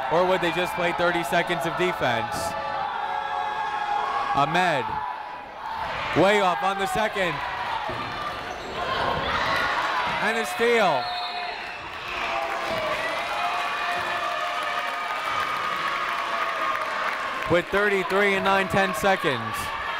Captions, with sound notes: or would they just play 30 seconds of defense? (people shouting in the crowd) Ahmed, way off on the second. (people shouting in the crowd) And a steal. (whistle tweeting) (people cheering in the crowd) With 33 and nine 10 seconds.